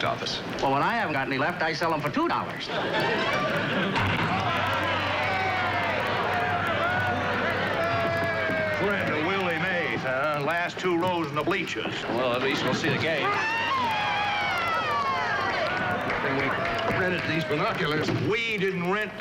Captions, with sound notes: Friend of Willie Mays, huh? Last two rows in the bleachers. Well, at least we'll see the game. (SCREAMING AND CHEERING) Good thing we rented these binoculars. "We" didn't rent those binoculars, I did. (ALL SHOUTING) Guys, sit down!